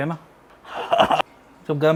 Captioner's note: hot Pizza eating sound